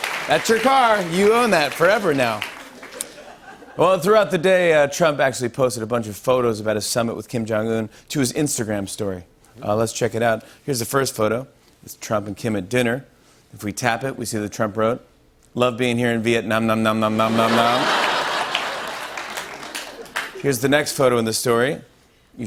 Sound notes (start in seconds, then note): 17.2 laughter